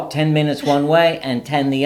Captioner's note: laughs